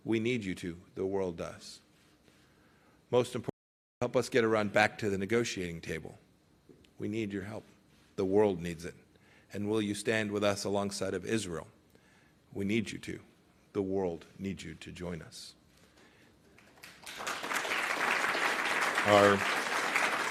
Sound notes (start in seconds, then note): 16.5 applause